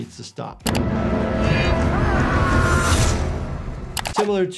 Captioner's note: victim screaming